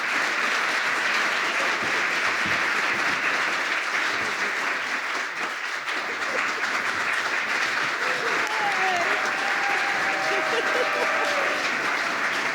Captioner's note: applause